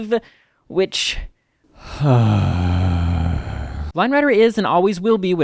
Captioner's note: deep sigh